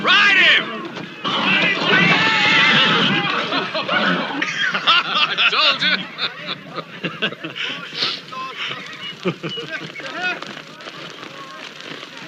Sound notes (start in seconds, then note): 5.3 both laugh